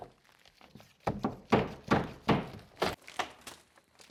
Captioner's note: none